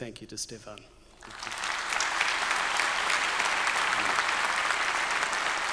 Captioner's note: everyone applauding